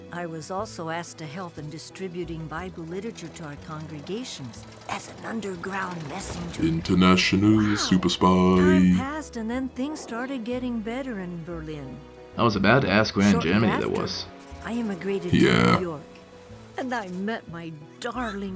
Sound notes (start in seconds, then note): 7.1 sing-song